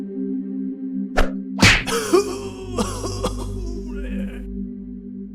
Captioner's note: bang and groan